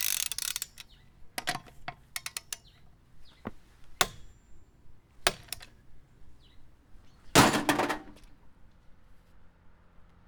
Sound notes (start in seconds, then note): 7.4 loud crash